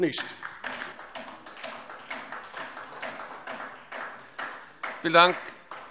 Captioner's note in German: Beifall DIE LINKE